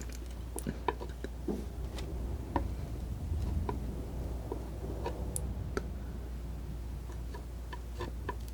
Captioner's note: scratching